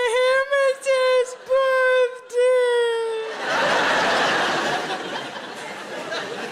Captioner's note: audience laughs